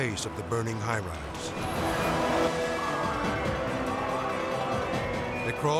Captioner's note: intense music; siren blaring